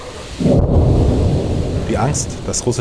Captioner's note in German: Detonation